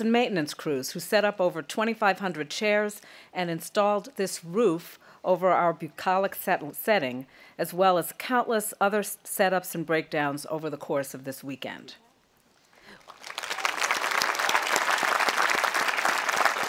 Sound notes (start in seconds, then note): 12.8 audience applauding